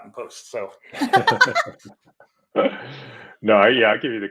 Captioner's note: laughing